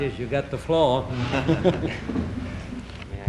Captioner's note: Rogers chuckles